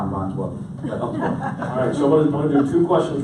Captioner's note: audience laughs